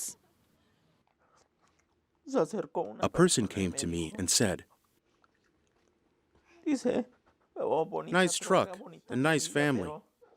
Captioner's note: through translator